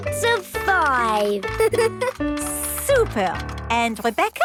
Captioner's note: giggles